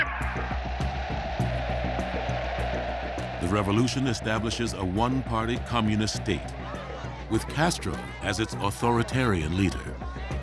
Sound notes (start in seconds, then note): 0.0 in Spanish; 0.5 crowd cheering